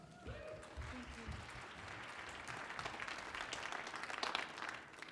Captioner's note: audience applauds